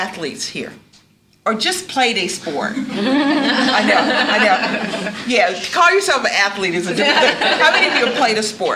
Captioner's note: laughter